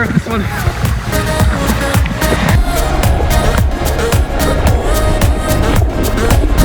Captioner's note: ocean waves crashing; upbeat electronic music